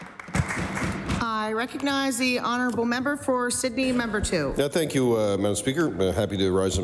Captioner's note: applause